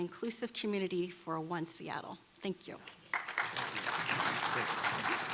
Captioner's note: applause